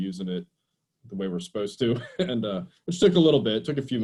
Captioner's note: laughs